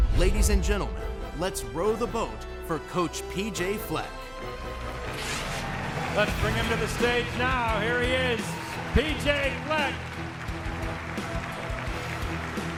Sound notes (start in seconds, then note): 5.0 audience applauds; 5.0 dramatic music; 10.0 dramatic music